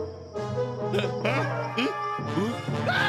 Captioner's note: grunting